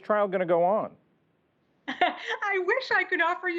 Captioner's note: laughter